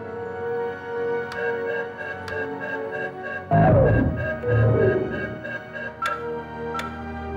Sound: computer beeps; dramatic music

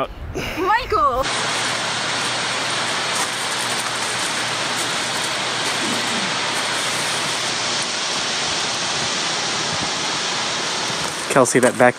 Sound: sounds of water falling

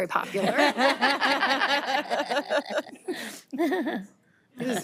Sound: audience laughing

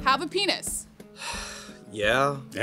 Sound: shameful sigh

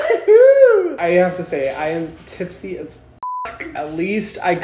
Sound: beep

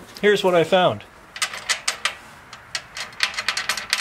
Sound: metallic noise

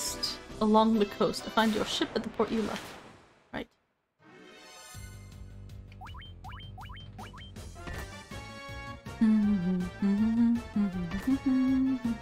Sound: hum battle music

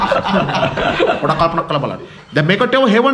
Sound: laughing

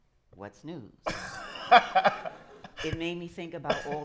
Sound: laughter

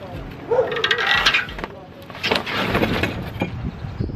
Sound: dog barking

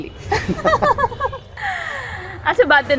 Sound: laughing

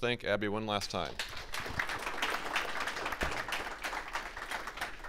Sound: audience clapping

